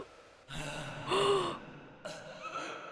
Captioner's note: gasp